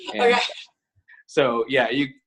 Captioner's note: laughs